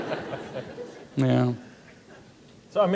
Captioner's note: laughter